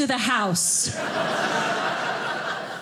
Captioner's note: audience laughing